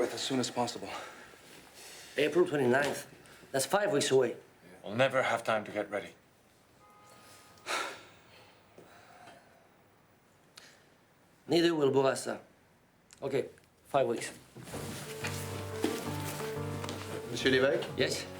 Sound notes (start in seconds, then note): 7.9 sighing; 15.1 tense exciting music